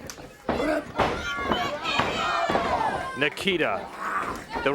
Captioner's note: crowd chatter